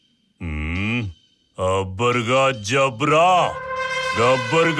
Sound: gibberish chanting

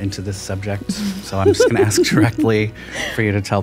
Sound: snickers

